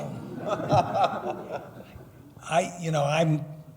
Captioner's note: laughing